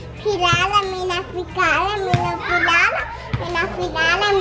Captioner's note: speaking in Spanish